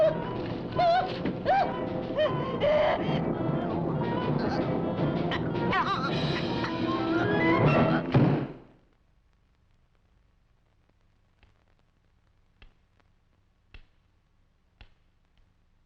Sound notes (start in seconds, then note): 1.4 Lottie screaming; 5.4 Lottie choking; 8.1 book thudding; 13.1 cane tapping